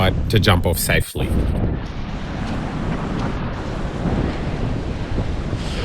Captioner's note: wind